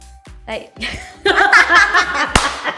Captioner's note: laughter; claps